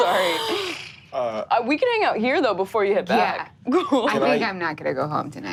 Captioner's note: laughs